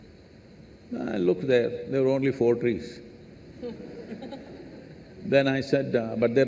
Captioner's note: laughter